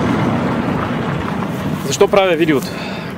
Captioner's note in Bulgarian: Въздишка